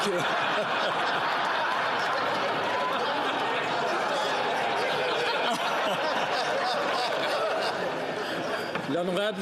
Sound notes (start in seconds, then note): 6.6 speaking Italian